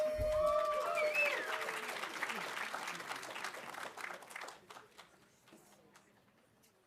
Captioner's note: audience cheering; audience applauding